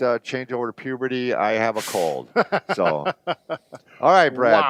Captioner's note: laughs